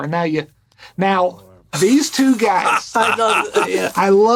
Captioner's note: Gould laughing